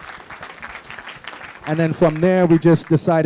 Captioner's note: applause